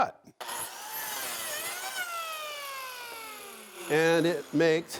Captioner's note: machine whirring